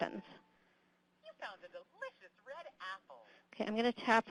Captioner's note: computer talking